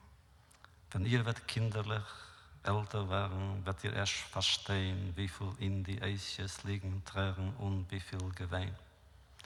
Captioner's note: Yiddish